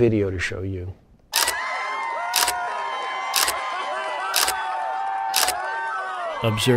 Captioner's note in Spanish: ruido de la multitud